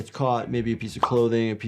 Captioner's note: graphics popping